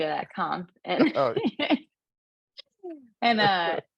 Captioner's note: laughs